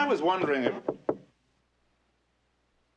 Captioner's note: Kapıyı çalıyor